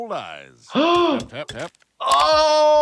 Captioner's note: gasps; groans